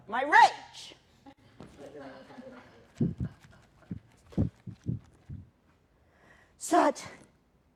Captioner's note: laughter